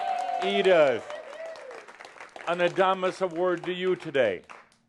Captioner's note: audience applause